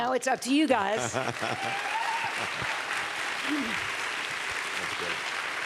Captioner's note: applause